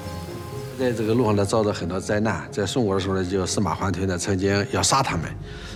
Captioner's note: hablan un idioma extranjero